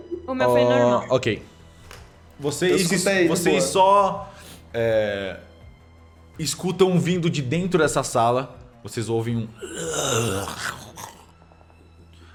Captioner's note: roar